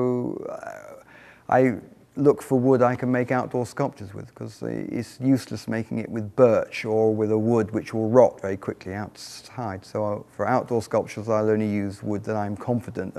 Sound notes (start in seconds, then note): none